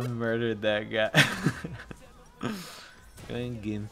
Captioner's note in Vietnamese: Cười